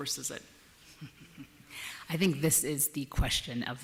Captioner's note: chuckles